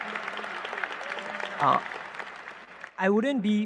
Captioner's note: applause